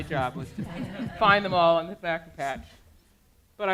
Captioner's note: audience laughing